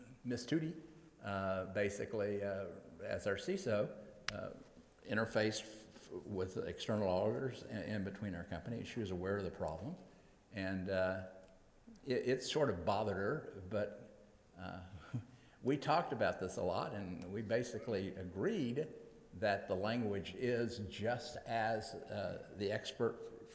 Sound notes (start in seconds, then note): 14.0 laughs